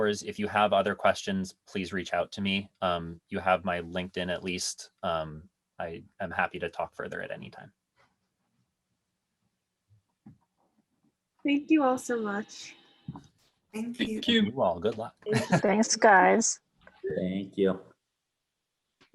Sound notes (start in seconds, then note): 15.2 laughs